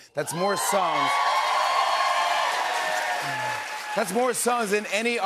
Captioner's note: cheers and applause